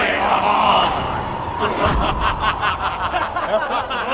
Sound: laughs

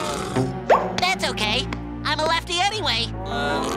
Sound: laughing; meowing; screaming

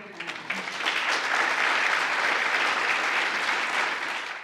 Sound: applause

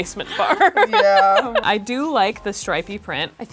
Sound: laughs

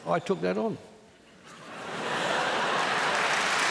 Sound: laughter

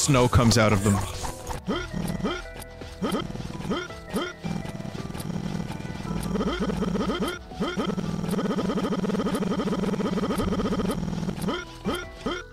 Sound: player character grunts repeatedly with increasing speed

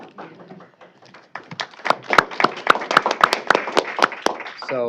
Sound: applause

